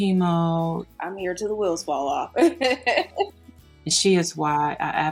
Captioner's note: laughs